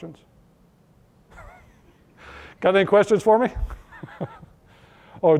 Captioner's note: laughter